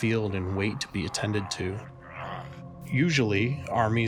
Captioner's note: soldier groaning